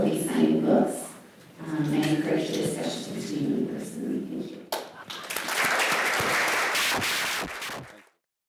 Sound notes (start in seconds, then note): 5.0 audience applauding